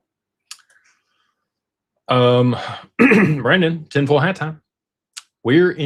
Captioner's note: clears throat